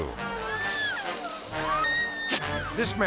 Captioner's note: person screaming